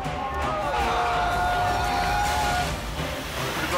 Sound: yelling

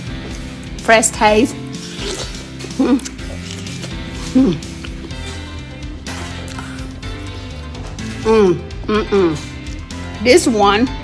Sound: munch crunch

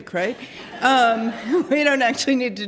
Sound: laughter

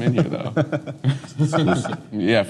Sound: laughs

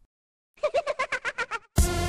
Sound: laughs

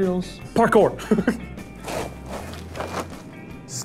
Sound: laughs

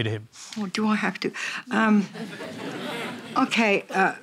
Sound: laughter

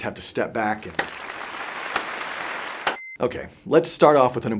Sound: claps loudly

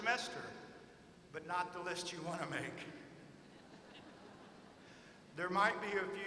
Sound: laughter

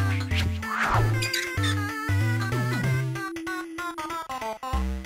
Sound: dry erase marker squeaking on whiteboard

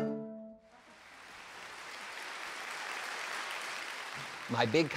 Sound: applause

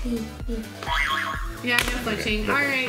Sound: spring bounces

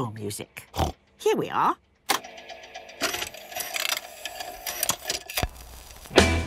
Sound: clicks, whirring

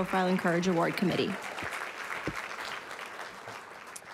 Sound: applause

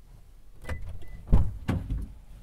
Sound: car unlocks

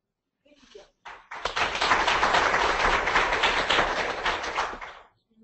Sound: audience applauding

